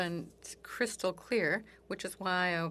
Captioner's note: speaking in French